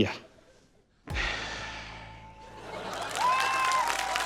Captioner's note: sighs; laughter, cheering, applause